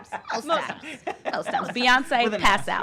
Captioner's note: laughter